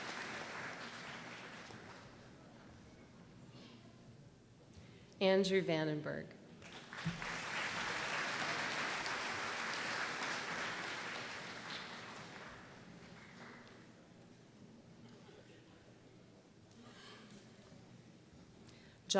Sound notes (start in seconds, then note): 0.0 applause; 6.6 applause